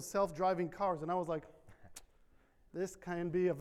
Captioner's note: tongue clicks